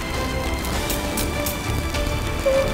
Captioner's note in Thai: เสียงไฟช็อต